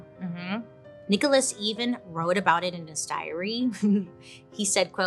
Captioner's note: chuckles